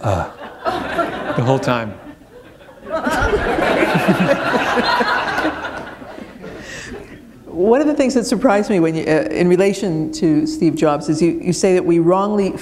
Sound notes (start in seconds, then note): 6.1 laughter